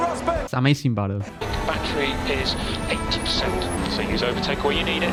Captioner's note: Team Radio Rosberg